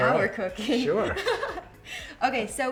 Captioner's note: laughing